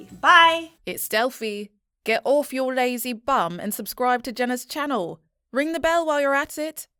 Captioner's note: confident, Smooth Female Voice